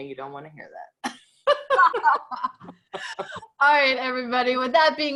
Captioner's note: both laughing